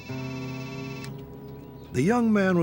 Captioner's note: phone ringing